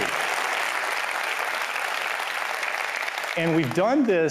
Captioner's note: applause